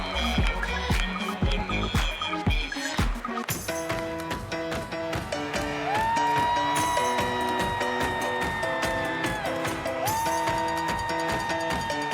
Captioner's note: cheers and applause